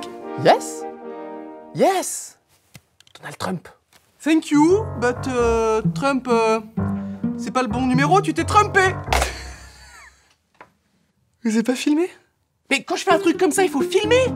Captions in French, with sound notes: Yes... Yes ! Donald Trump ! Thank you but... Trump... C'est pas le bon numéro, tu t'es Trumpé ! *rires* Vous avez pas filmé ? Mais quand je fais un truc comme ça, il faut filmer !